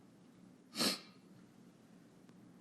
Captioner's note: blows her nose